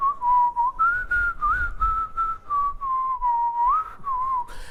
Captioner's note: whistling